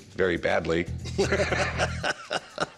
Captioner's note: laughter